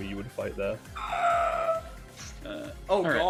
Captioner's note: pained sounds